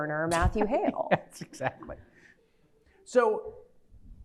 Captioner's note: laughs